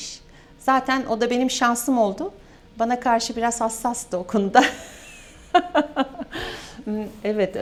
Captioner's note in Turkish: kahkaha